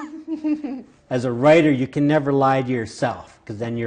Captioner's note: laughing